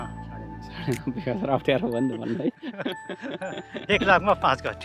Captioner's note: laughter